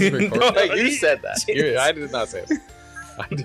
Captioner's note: laughs